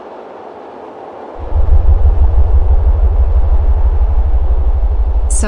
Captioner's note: aircraft rumbling